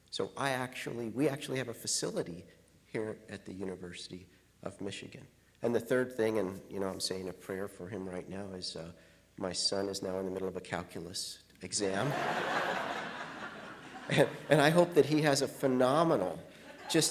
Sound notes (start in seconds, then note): 12.0 audience laughs